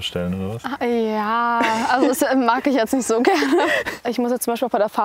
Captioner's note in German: Lachen